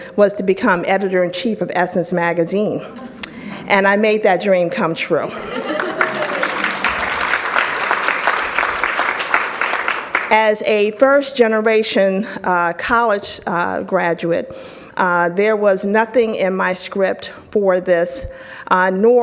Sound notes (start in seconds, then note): 2.8 audience chuckles; 5.5 audience applauds